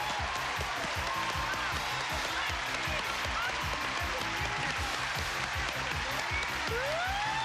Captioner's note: cheers and applause